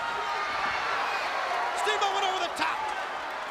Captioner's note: crowd chatter